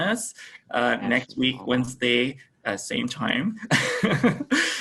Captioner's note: laughs